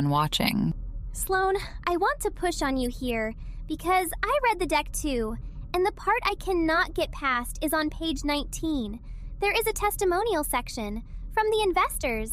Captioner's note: breath